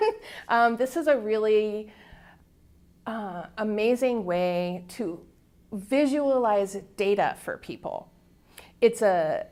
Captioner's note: chuckle